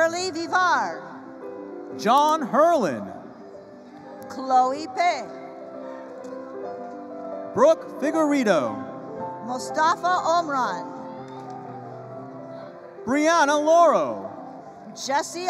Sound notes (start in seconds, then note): none